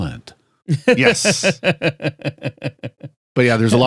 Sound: laughing

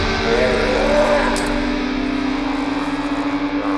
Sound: vampire howls

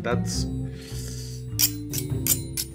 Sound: inhaling; cutlery scraping together

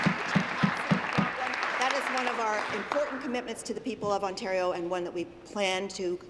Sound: applause

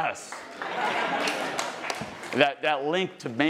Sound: attendees laughing and applauding

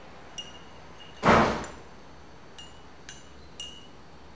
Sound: door beating

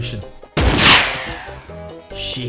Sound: gunshot

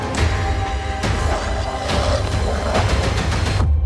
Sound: creature snarling

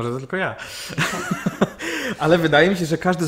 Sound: laughter

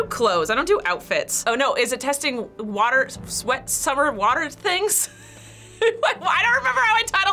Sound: laughs

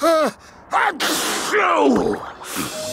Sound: sneezing

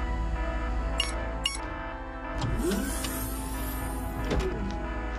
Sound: sirens wailing; beeping

